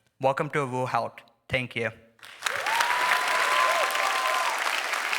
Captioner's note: applause